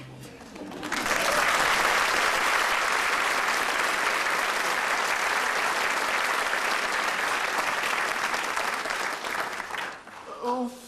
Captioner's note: applause